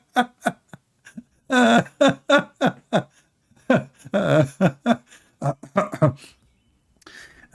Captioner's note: Ketawa